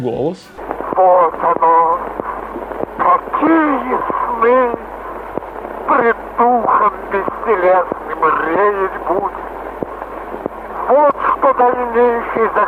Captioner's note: Mikhail Chekhov's voice